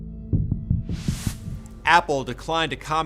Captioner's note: graphic whooshes